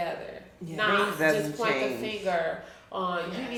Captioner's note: speaking faintly